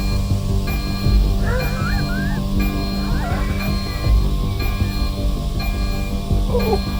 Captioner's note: alarm blaring; Hawk gasping